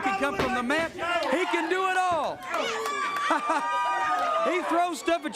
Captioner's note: crowd cheering